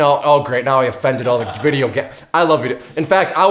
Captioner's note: laughter